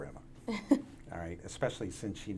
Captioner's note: laughs